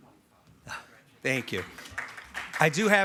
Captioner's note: audience applauding